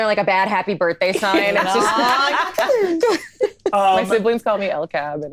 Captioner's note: all laughing